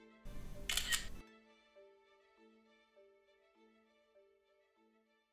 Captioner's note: camera shutter clicks